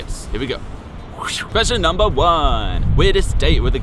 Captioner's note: whoosh